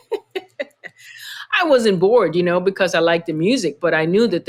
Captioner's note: laughter